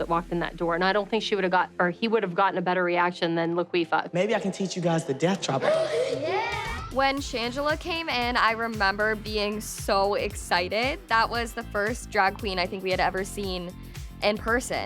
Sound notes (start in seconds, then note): 5.6 gasps